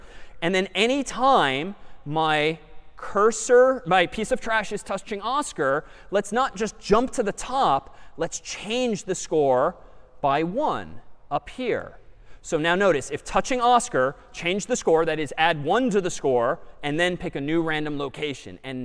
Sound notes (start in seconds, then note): none